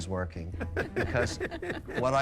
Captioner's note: Sharks laughing